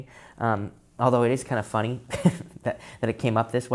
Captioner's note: chuckles